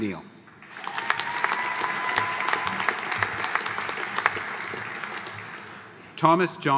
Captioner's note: audience applauding; audience cheering